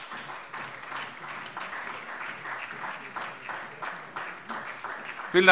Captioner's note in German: Beifall SPD und Freie Demokraten